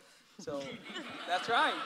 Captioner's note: audience laughs